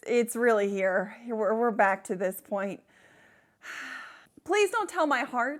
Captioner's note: sighs